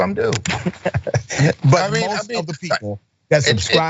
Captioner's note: laugh